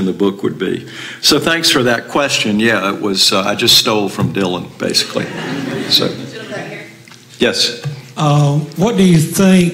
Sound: laughter

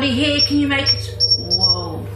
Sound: metre beeps

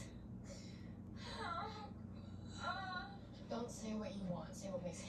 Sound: groaning

